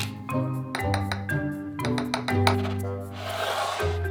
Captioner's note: spoon clanking on side of bowl